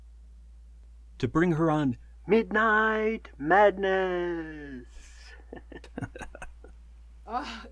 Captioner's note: chuckles